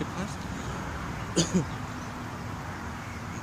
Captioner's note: coughing-Noise!